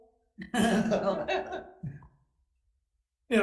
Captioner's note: laughing